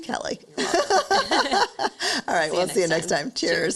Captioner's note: laughs